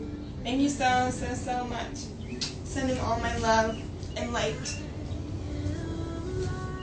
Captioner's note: blows kiss